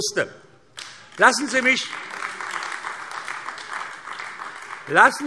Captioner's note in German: Beifall AfD